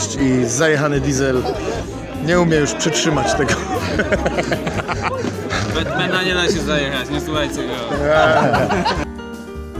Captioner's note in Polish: Laughter